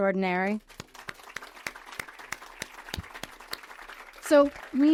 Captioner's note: audience applauds